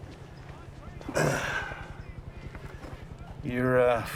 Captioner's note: sighs